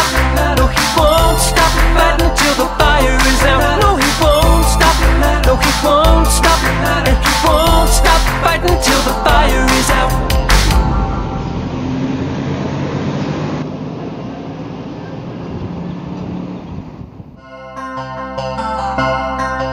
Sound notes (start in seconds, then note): 10.6 truck sounds